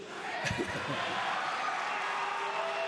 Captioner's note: applause